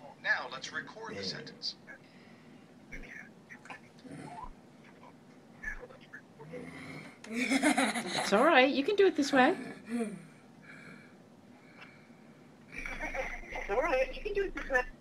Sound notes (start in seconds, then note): 7.2 laughing; 8.4 voiceover